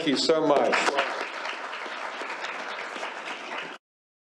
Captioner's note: applause